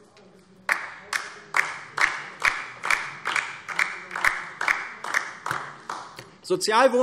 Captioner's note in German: Beifall DIE LINKE